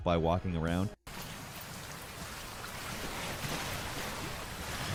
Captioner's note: river runs